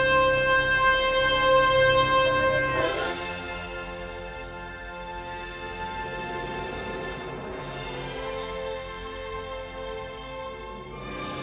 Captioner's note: applause